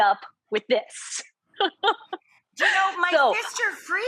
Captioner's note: both laughing